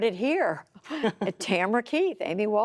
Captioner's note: laughter